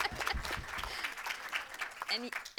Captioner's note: laughs; audience applauding